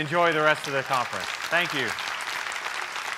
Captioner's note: applause